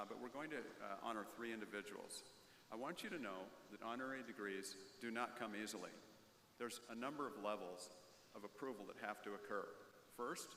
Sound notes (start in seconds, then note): none